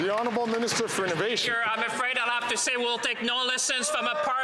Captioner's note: some Applause